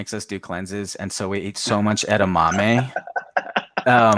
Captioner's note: Jet laughs